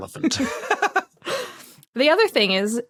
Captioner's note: laughs